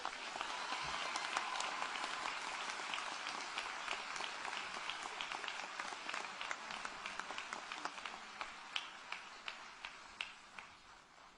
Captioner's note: applause